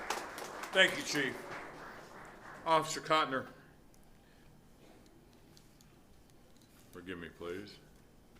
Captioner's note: applause